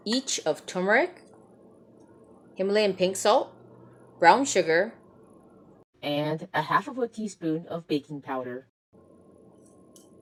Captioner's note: robot voice